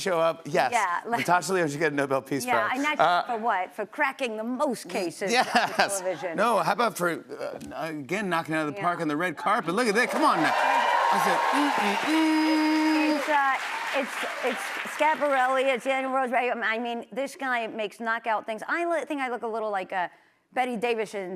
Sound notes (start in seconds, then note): 10.0 cheers and applause